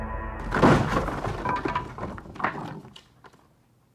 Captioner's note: crashing